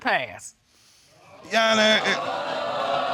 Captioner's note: audience exclaiming; stammering